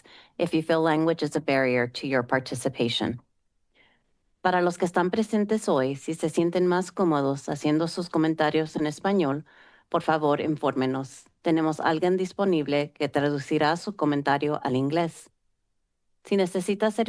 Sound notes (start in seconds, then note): 4.4 Spanish language